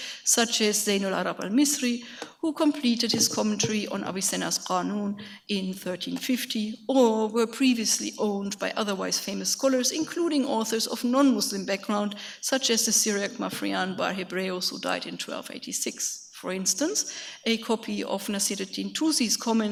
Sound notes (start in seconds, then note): 0.7 speaks in a foreign language; 4.0 speaks in a foreign language; 13.0 speaks in foreign language; 17.7 speaks in a foreign language